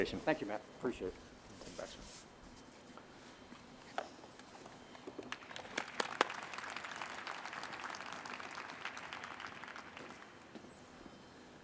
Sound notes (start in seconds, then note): 5.2 audience applauds